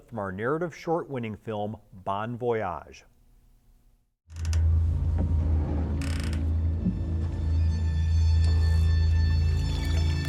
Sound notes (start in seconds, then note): 4.3 boat creaking; 4.6 dramatic music